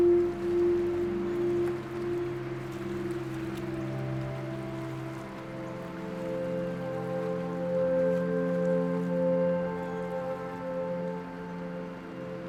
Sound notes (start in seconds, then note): none